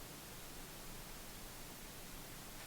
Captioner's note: none